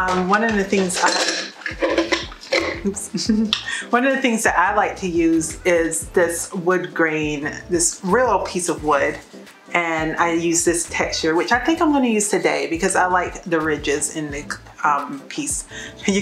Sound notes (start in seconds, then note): 0.0 clattering